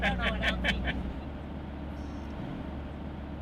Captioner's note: laughing